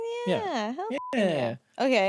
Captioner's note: beep